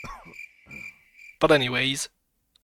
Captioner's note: distant cough; crickets chirping